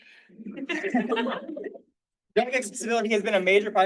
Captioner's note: all laughing